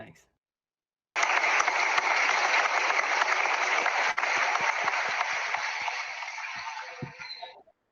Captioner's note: applause